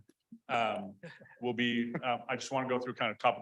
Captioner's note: persons chuckling